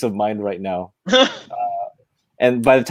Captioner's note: laughing